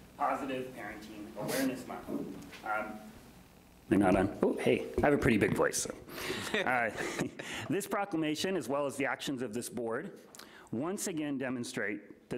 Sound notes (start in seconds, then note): 6.3 laughs